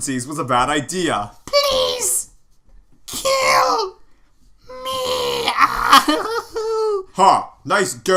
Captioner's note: groans